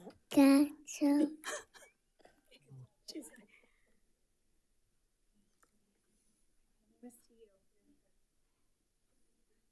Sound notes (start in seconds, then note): 1.3 coordinator laughs